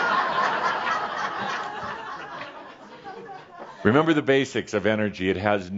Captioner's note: laughter